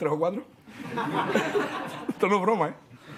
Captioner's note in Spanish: Risas